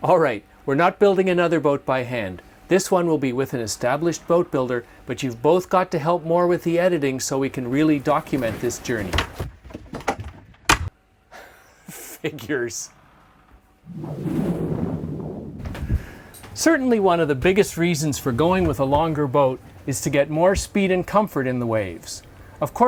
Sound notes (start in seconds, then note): 8.4 door clangs; 11.1 sighs; 11.4 chuckles